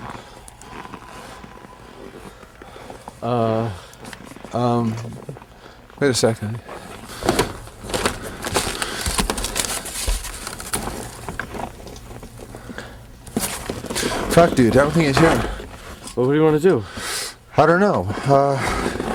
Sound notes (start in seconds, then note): 0.0 siren wailing